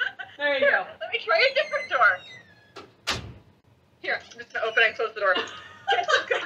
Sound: door shuts; shuts door

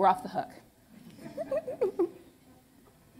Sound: laughter

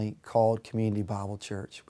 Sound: none

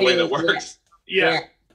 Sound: laughs

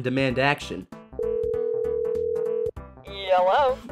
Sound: phone ringing

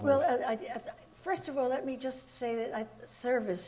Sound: none

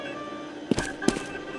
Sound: footsteps

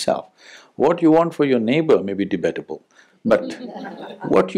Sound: laughter

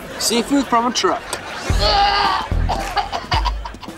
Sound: gagging

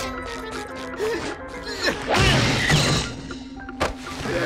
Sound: grunting

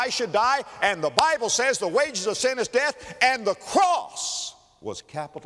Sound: clap

